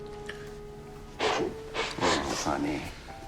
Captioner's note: Cassie sniffles